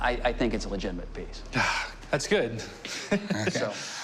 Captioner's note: chuckling